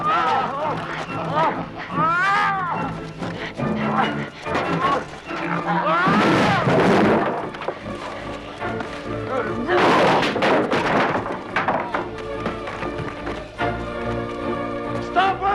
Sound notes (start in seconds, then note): 0.0 Landrazza laughing; 0.2 Hundra and guard shouting; 6.5 table clatters; 9.8 chair clatters; 12.3 dramatic music